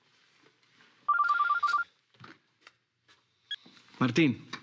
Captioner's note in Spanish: Suena el celular